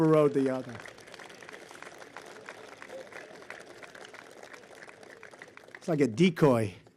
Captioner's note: applause